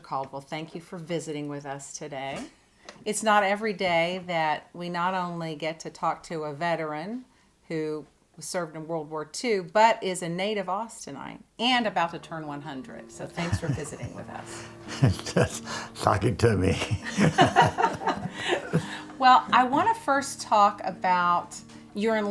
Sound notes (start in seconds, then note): 15.8 laughs; 19.2 laughs